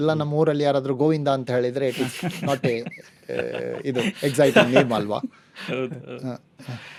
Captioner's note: laughs